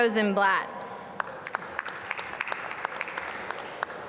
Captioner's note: applause